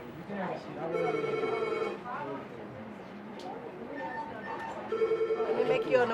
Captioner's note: phone ringing